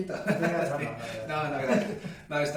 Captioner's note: laughing